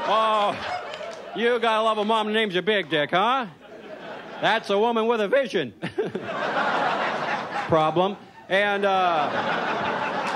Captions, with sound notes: Oh, you gotta love a mom who names you Big Dick, huh? That's a woman with a vision. (chuckles) (audience laughs) Problem? (audience laughs) And, uh.